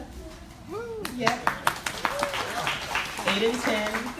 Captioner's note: audience applauds